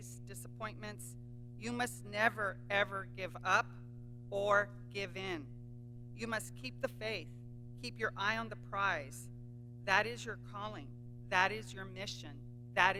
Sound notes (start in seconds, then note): none